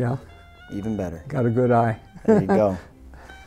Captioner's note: laughing